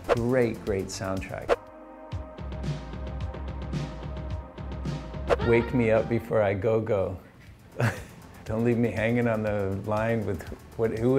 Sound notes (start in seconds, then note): 2.0 upbeat pop music; 7.8 laughs